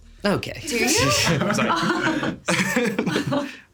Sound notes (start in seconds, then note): 0.8 chuckles; 1.0 everyone chuckling